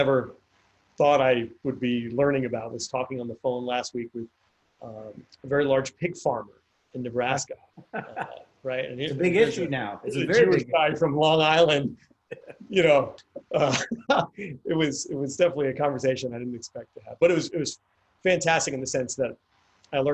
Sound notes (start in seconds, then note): 12.3 chuckles